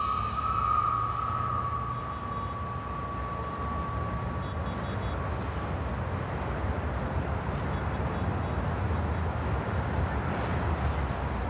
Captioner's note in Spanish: Bullicio en la calle